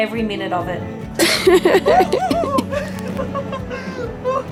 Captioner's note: laughing